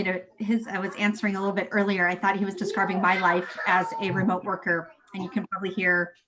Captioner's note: voices in the background